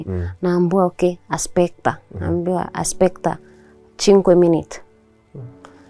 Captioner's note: speaking Italian